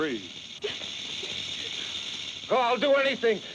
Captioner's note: snake rattles